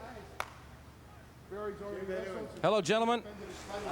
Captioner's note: people chattering